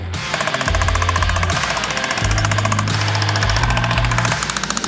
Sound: loud clanking sound

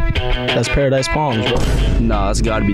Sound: boom sound effect

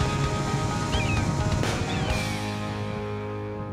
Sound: bird squawking

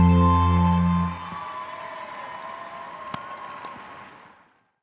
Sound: audience applauds

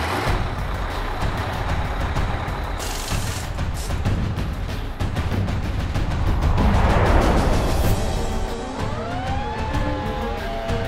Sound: fire truck engine starting up

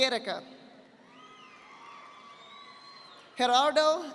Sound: audience applauding

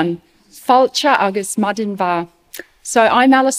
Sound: spoken in Gaelic: Welcome and Good Morning

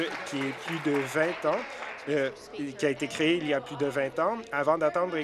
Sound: applause

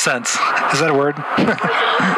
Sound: laughs to himself

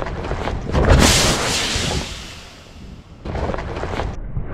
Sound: tire deflates

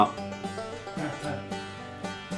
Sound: laughing in the background

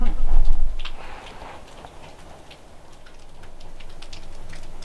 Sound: water dripping

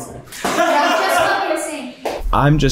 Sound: all laughing

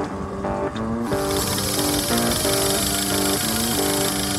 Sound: reel whirring

